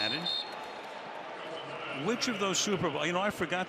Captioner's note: whistle